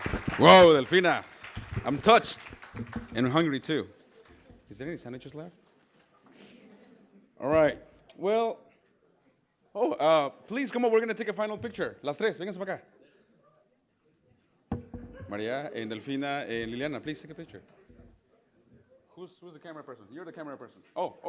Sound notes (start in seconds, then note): 6.5 laughter; 12.1 spanish speech